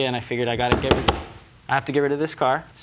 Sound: pounds desk with hand

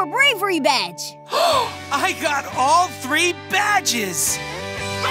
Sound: gasping; cheering

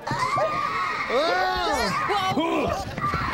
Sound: yelling

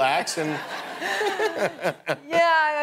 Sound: laughter

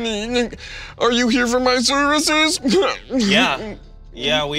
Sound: Pagliacci crying

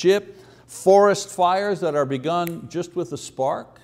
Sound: snapping fingers

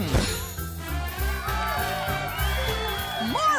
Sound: audience cheering

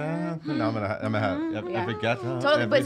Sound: hums

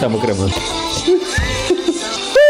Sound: laughs

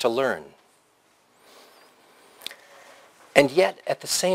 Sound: pause

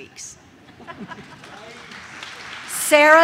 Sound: audience laughs; audience claps

